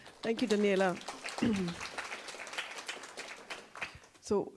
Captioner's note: applause